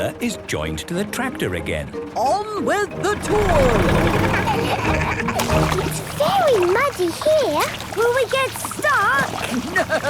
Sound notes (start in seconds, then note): 4.5 laughing